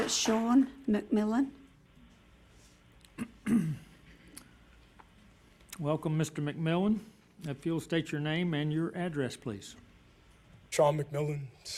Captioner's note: applause